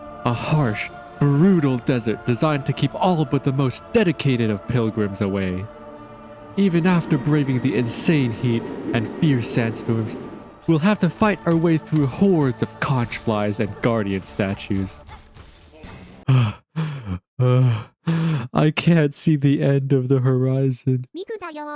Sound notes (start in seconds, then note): 16.0 huff